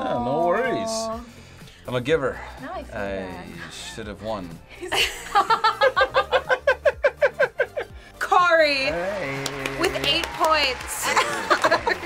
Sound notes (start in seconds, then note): 4.8 laughing; 11.1 chuckles